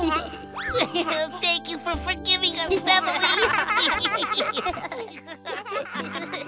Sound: laughing

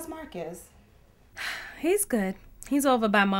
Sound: sighs

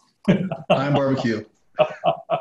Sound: laughing

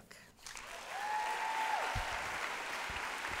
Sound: cheering and applause

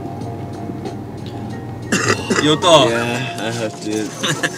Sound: coughs

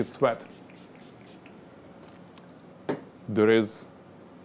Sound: spraying

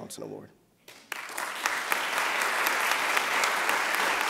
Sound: applause

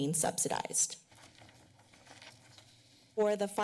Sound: papers rustling

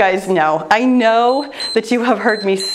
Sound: timer beeps

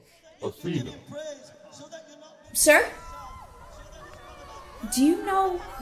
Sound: city noises, unintelligble speaking from the worshippers, hollering and cheering

